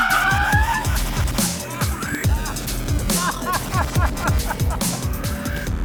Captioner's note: laughing